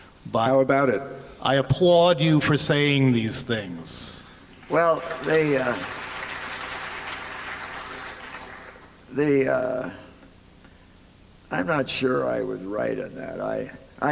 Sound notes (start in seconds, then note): 4.5 applause